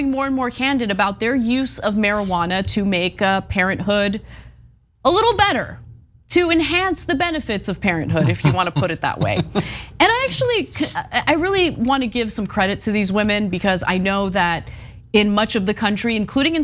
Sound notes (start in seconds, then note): 8.1 laugh